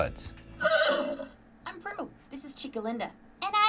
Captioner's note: horse neighing